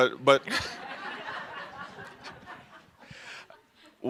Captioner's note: laughter